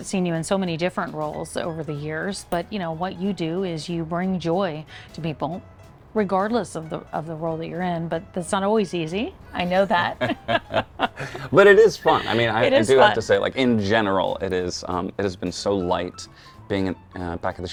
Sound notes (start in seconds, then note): 10.0 both chuckle